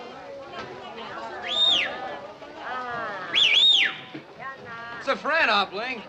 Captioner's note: whistling